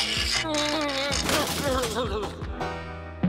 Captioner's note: pipe ratcheting; straining and muttering